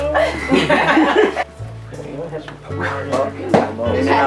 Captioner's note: family chattering